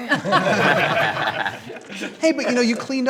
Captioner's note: light laughter